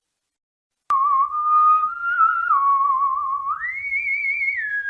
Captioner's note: Janice whistling